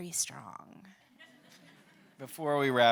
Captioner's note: audience laughing